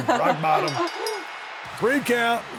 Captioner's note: bell ringing